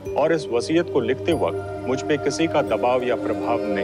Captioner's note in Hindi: none